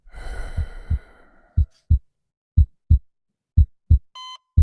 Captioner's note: heart beating